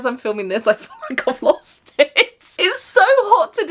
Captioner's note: laughs